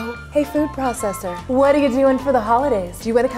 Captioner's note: none